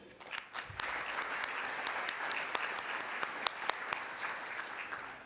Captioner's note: audience applause